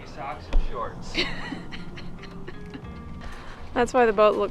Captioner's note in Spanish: riendo